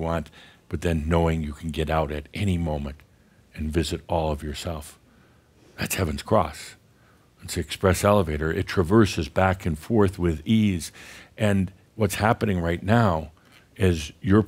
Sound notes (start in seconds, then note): none